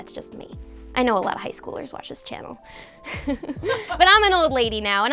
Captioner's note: laughing